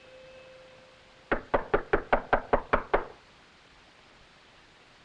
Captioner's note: knocking on door